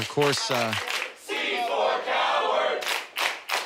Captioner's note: audience chanting